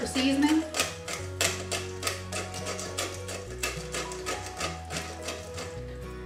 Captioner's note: pepper mill grinding